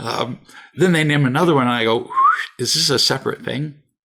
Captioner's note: whistles